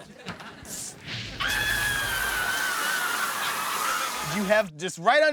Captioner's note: screaming